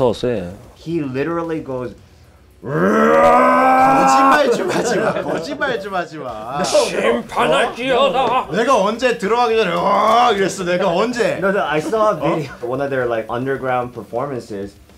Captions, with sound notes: - He literally goes, (growls). (singing in foreign language) - No, no, I saw a video. One of their like underground performances.